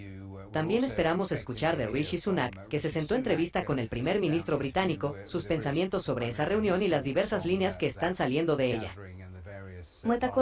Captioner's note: spanish Audio